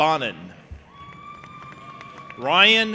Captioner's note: audience applauding and cheering